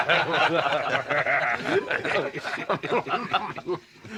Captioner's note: laughing